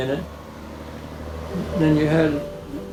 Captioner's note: vehicle rumbling